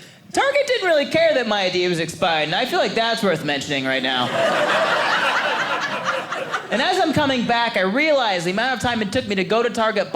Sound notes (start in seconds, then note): 4.1 audience laughing